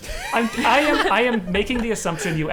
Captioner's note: players laughing